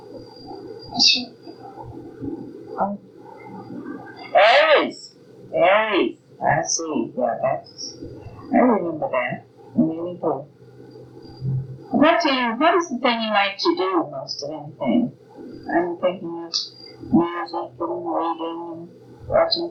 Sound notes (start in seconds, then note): none